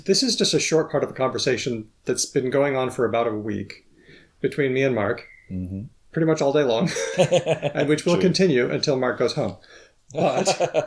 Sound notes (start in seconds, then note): 6.6 both laughs; 10.1 laughs